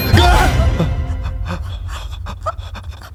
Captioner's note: shuddering